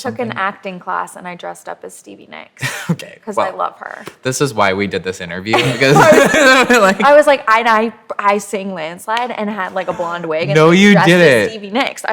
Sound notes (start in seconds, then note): 2.7 laughs; 5.5 laughter